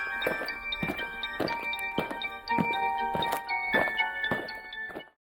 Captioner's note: eerie music; aliens marching